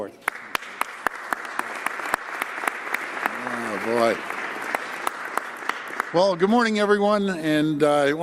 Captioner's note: applause